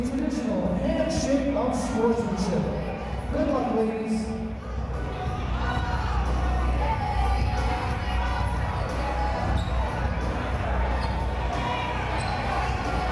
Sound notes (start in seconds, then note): 5.7 upbeat music; 8.4 chattering